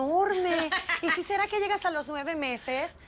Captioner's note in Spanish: Risas